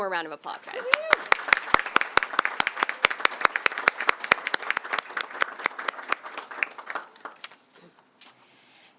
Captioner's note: applause